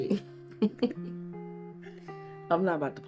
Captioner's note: June chuckles